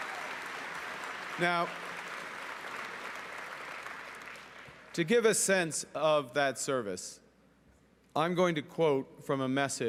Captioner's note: cheering and Applause